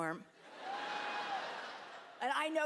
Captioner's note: laughter